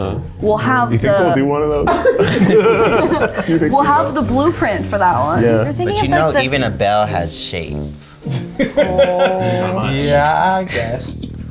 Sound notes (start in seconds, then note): 8.2 laughs